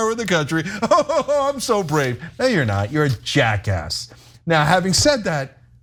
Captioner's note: laugh